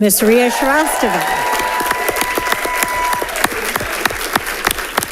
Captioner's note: audience applauding